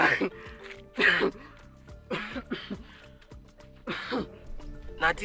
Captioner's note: coughing